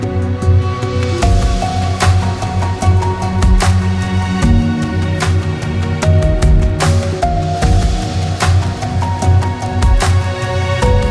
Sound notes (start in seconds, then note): 9.1 applause